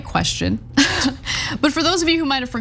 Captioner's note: laugh